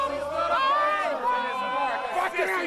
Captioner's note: crowd chanting